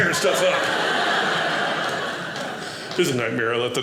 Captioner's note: audience laughing